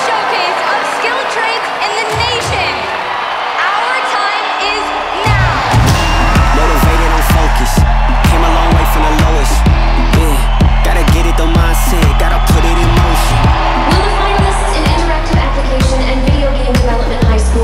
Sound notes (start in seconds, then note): 5.6 crowd cheering